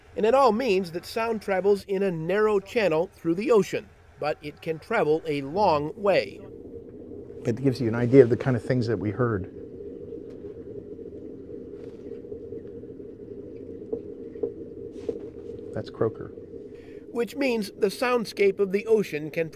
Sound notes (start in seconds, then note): 10.4 underwater churning and clicks; 17.4 voiceover